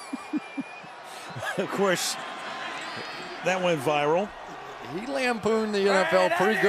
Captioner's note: laughs